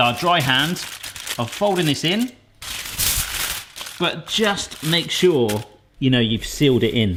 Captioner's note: crinkling